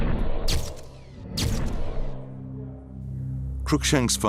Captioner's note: camera shutters